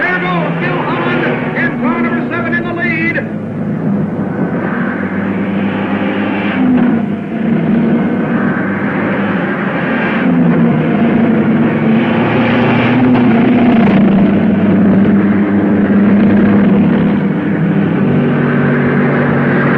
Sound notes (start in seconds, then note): 5.3 cars revving